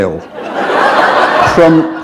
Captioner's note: laughter